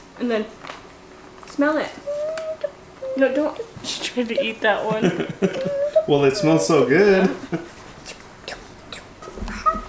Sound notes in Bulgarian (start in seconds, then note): 4.3 смее се